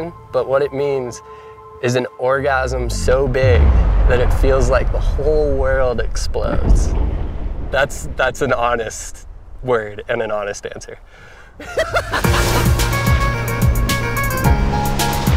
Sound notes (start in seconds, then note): 11.6 laughs; 12.2 upbeat music